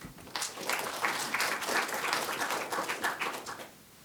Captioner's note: applause